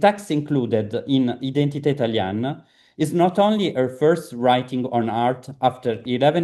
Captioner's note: italian